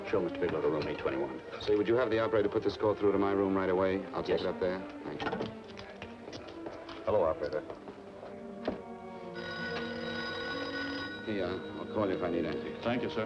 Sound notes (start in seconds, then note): 9.3 telephone ringing